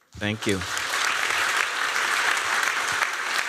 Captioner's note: applause